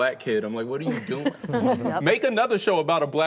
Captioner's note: laughing